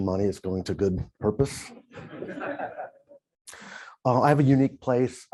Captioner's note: laughter